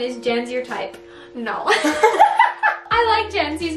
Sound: both laugh

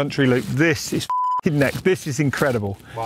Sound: beep

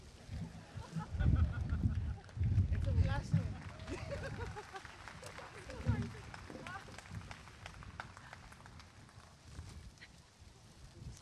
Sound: applause and cheering

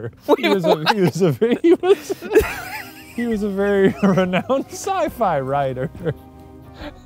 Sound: laughing

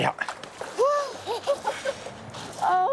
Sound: laughs

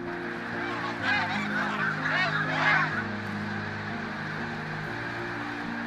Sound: squawking

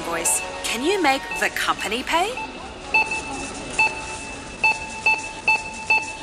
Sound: beeping

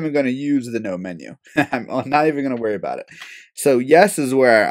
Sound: laugh

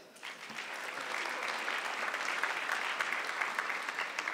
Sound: audience clapping

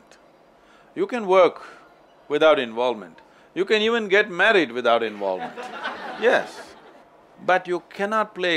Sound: laughter

